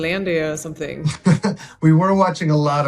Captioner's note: Oscar chuckling